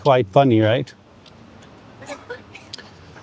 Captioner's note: woman laughs